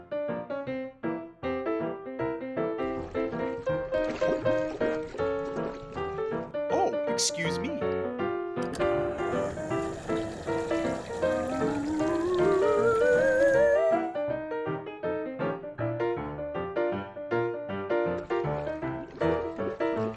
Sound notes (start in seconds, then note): 0.3 ragtime piano music; 8.6 whirring; 13.9 ragtime piano music